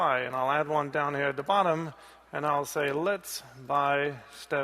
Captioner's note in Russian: none